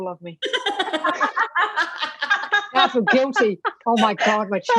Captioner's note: all laughing